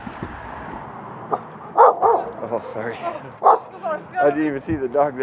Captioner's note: dog Barking